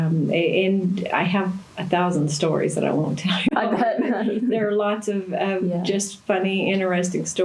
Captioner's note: laughter